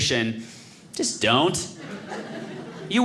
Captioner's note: audience laughing